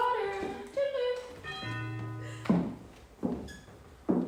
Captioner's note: door bell rings